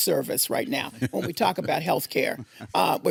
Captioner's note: laughing